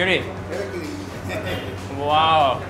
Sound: speaking foreign language

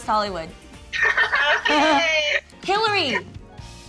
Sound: laughing

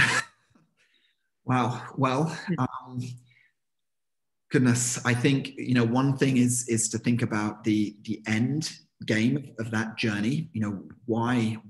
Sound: laughing

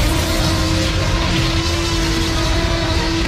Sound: roaring

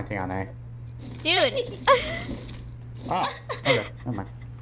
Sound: laughing; laughs

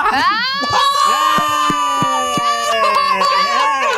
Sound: loud cheering

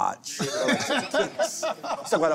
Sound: laughter

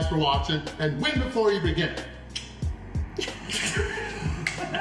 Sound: haha

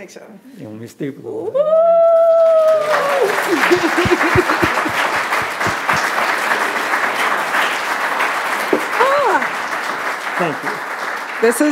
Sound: clapping

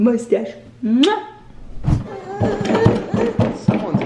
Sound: kissing

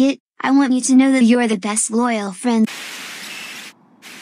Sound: static

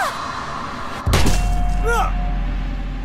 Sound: gunshot

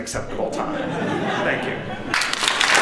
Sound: laughter

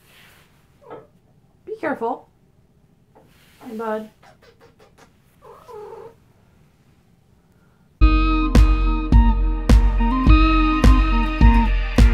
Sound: kissy noises

